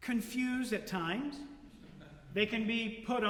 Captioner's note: laughter